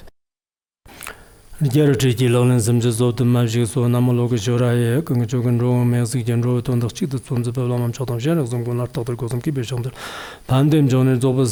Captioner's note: giving oral transmission in Tibetan